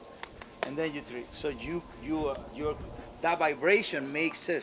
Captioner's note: clapping